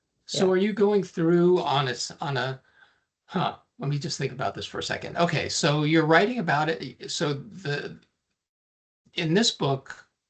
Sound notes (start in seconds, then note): none